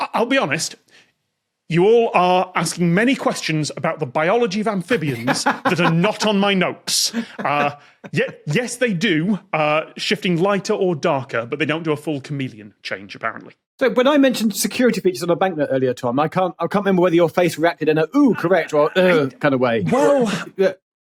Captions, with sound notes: I'll be honest, you all are asking many questions about the biology of amphibians that are not on my notes. (belly laughs) Yes they do, shifting lighter or darker, but they don't do a full chameleon change apparently. So when I mentioned security features on a bank note earlier, Tom, I can't remember whether your face reacted in a, "Ooh, correct" or "Ugh" kind of way. Well...